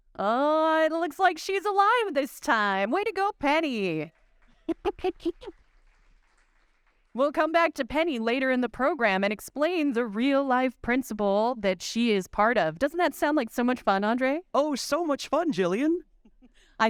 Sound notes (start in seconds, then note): 4.0 audience applauding; 4.6 giggling